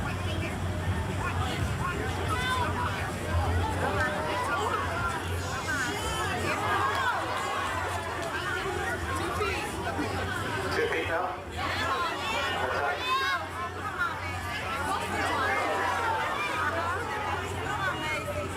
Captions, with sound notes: Two feet now? - [Crowd] Yeah! - All right. (crowd cheering the cow on)